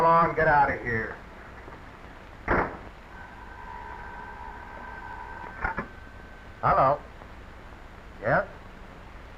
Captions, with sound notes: - Come on, get out of here. (phone ringing) - Hello. Yes.